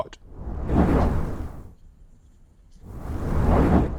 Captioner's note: whooshing